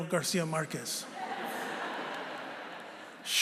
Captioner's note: laughter